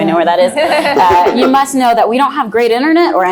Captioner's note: laugh